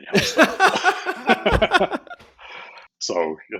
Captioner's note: both laugh